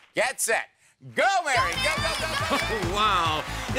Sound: cheering

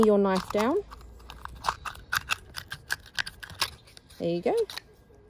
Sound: scratching sound

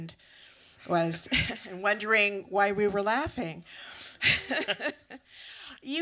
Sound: laughs

